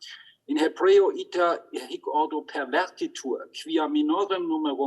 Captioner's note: speaks in Hebrew